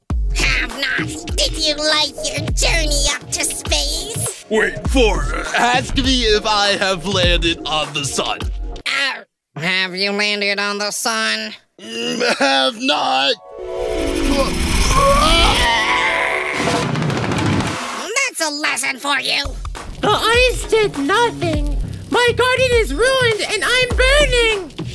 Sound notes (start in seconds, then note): 11.9 giggles; 13.3 harp sounds play